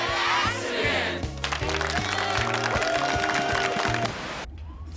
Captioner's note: cheers and applause